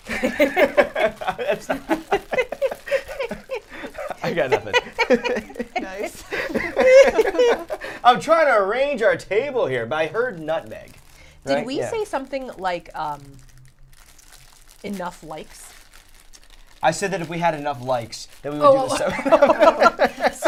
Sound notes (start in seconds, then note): 0.0 all laughing